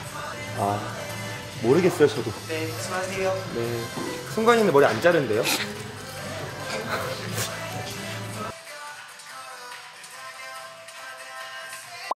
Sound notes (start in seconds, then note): 6.4 cracking up